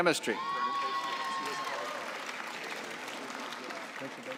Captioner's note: cheering and applause